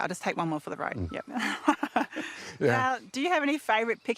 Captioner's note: laughs